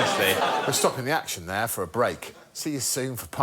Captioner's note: applause